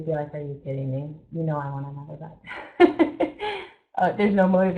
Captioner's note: laughs